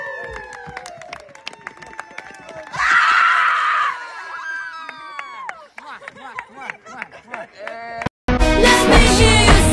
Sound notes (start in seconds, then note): 0.0 applause; 0.9 screaming